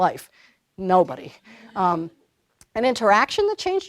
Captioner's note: laughter